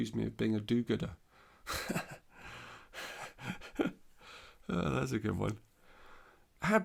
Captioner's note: laughs